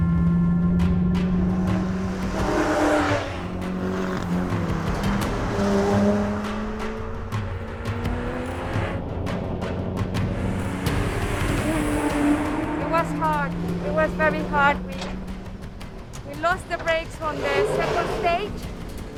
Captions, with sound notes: (energetic music continues) (engine roaring) It was hard. It was very hard. We lost the brakes on the second stage.